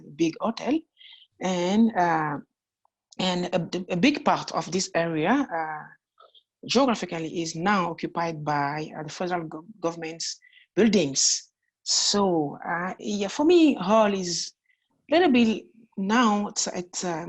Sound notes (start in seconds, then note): 1.5 french